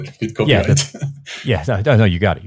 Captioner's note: laughs